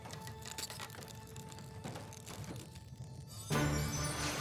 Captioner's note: crackling